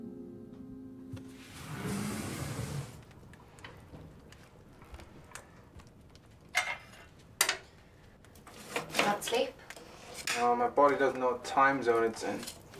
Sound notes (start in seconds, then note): 1.2 door slides; 6.4 fire-poker clinks